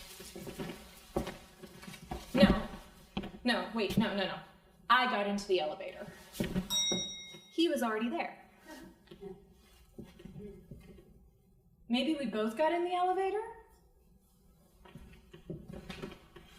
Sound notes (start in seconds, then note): 6.7 bell dings